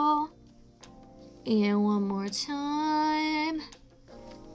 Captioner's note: singsong